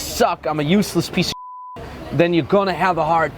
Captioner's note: beep